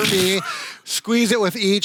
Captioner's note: snorts and laughs